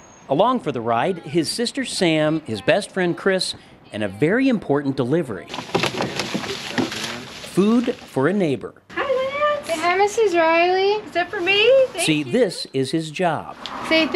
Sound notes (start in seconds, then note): 5.4 bag rustles